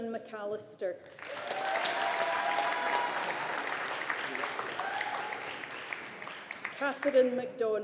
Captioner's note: audience applauding